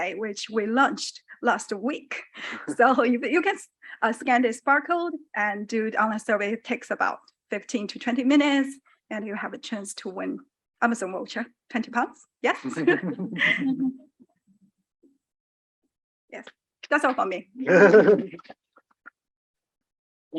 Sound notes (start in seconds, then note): 12.7 audience chuckle; 17.7 audience laughing